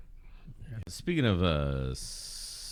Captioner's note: uh